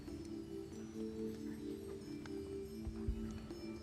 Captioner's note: whispering